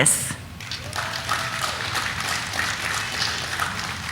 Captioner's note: audience applauding; audience cheering